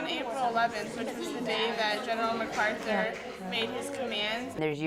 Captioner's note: students discussing the text